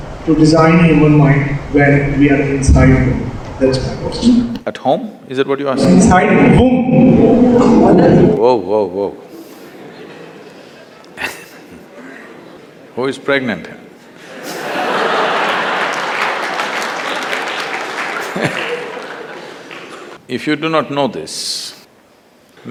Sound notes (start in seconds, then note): 9.6 laughter; 14.2 laughter/Applause